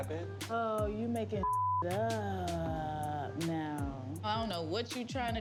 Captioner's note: beep